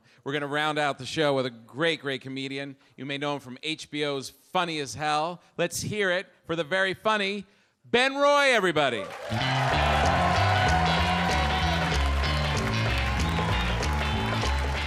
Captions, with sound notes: We're gonna round out the show with a great, great comedian. You may know him from HBO's "Funny as Hell." Let's hear it for the very funny Ben Roy, everybody. (audience applauds) (upbeat music)